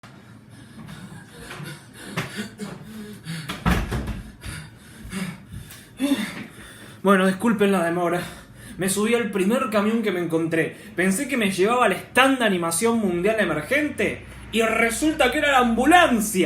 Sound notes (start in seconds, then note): 0.6 le pant... le pant; 3.8 le pant... le pant... le sigh